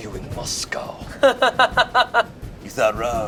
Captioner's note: laughs